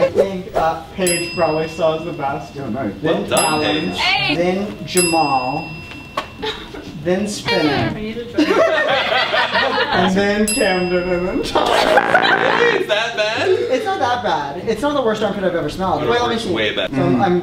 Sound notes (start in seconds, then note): 5.6 chuckles; 11.5 everyone laughs